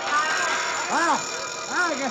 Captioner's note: alarm ringing